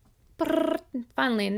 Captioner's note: making drum roll sound